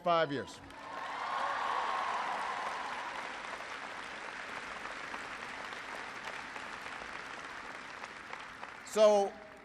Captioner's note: applause